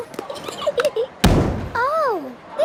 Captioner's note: giggling, thudding